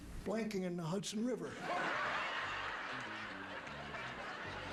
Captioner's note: audience laughter